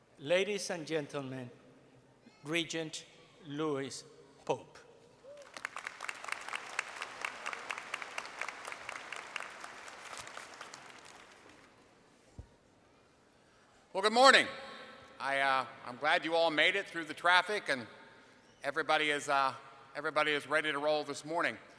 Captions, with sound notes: Ladies and gentlemen, Regent Louis Pope. [ Applause ] >> Well, good morning. I'm glad you all made it through the traffic and everybody is ready to roll this morning.